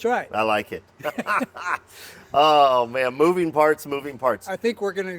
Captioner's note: laughing